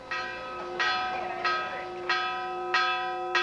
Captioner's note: bell ringing